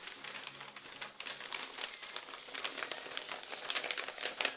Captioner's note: paper rubbing